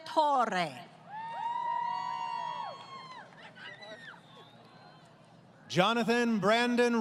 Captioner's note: crowd Cheering